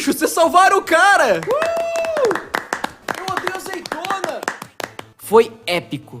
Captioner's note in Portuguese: palmas